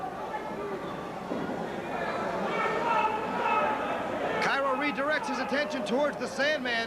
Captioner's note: crowd chatter